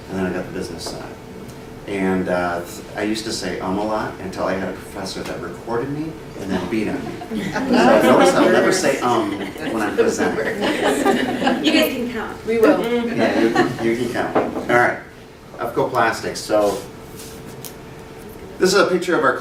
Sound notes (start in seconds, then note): 6.5 laughter